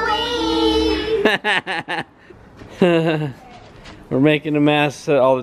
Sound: laughs

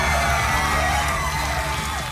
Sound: cheering

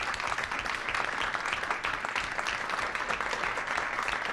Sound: clapping

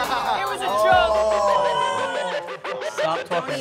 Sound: group groaning

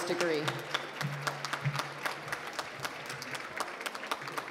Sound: applause

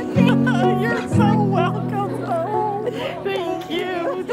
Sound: laughing

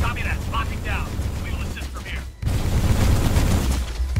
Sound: radio

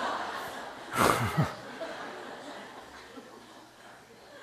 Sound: audience Laugher

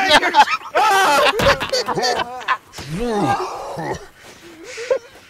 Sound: laughter; screaming

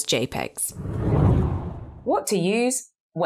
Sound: screen whooshes

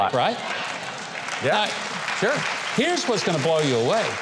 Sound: audience applauding

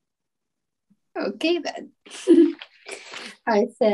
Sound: giggling

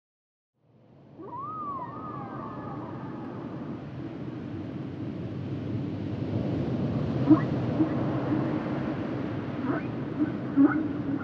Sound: whale song

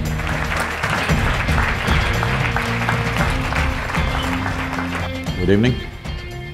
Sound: applause

